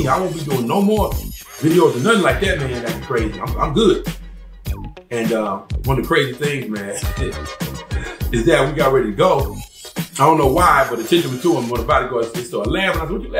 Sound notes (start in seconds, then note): 6.9 laughs